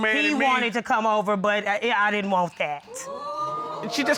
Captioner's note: audience exclaiming